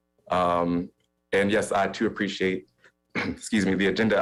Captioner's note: coughs